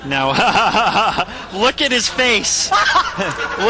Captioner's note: laughing